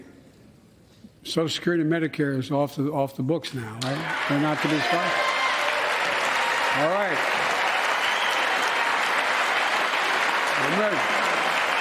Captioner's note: applause